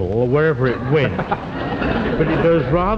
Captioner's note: audience laughs